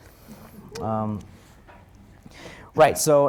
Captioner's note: audience member cheering